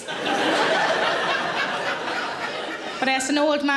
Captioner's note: audience laughing